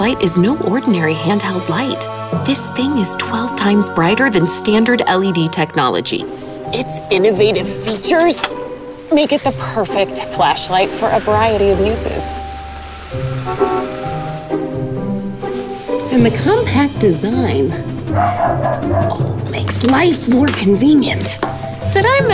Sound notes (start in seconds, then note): 13.4 horn honking; 18.1 dog barking